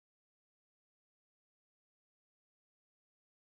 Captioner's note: none